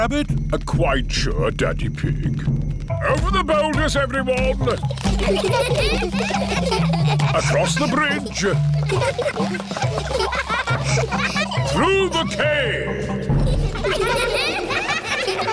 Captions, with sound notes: Quite sure, Daddy Pig. Over the boulders, everyone. (CHILDREN GIGGLING) Across the bridge. (ECHOING) Through the cave.